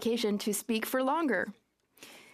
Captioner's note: speaking French